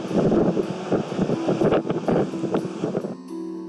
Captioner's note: wind gusting